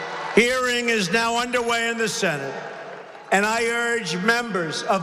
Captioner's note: applause